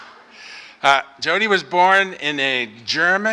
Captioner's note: applause